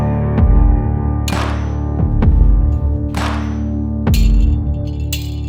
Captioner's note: metal clanging